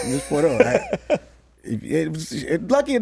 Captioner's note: laughs